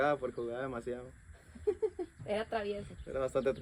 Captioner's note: laughter